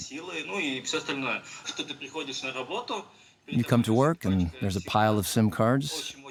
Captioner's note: speaking Russian